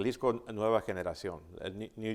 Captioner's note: speaking Spanish